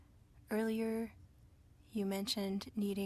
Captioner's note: speaking french